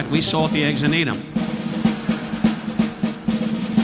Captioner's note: audience laughing; upbeat drumming music continues